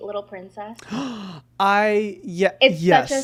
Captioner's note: gasping